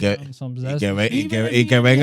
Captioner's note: speaking In Foreign Language